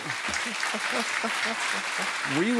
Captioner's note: applause